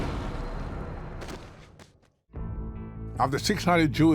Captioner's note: gunshot